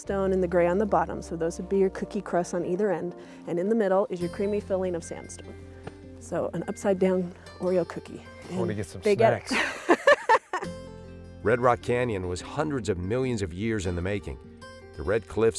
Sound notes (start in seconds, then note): 9.5 laughter